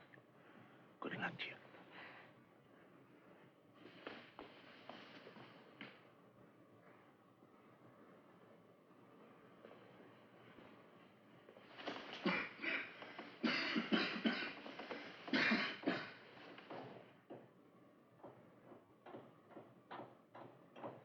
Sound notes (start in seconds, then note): 12.0 coughing; 18.4 hammering